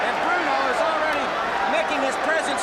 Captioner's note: crowd cheering